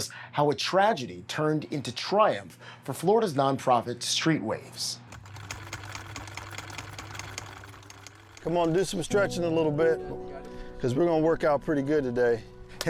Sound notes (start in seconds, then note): 5.0 sewing machine whirring